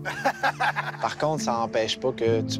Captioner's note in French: rires